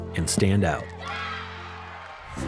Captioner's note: players cheering